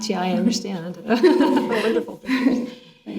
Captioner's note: all laughing